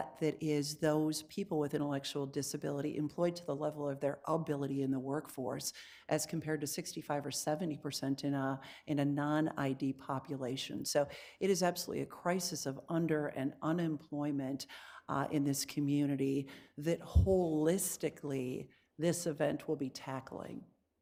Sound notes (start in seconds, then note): none